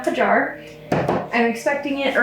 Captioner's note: jar thuds